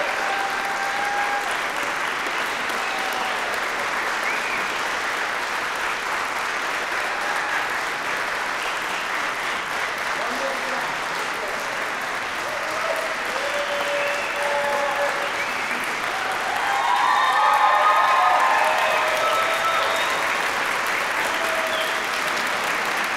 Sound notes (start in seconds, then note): 0.1 applause; 17.0 applause, cheering; 21.1 applause